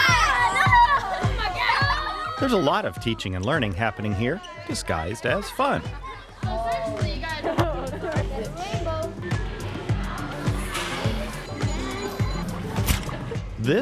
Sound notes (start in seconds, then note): 0.0 children laughing; 8.3 children talking indistinctly; 12.5 upbeat music